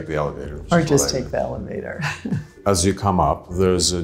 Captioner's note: laughs